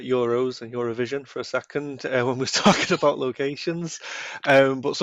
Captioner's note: laughing